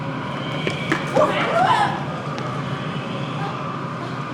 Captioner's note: children gasp